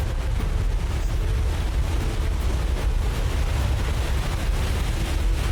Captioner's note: hard winds blowing